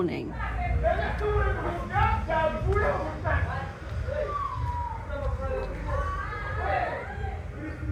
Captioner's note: loud drunken shouting